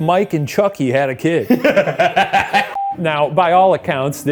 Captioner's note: laughing